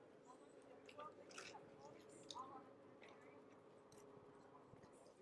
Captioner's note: people chattering indistinctly